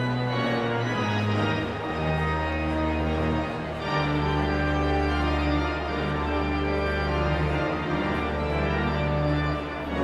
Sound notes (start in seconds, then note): 0.0 exhilarating organ music continues; 4.9 audience chattering continues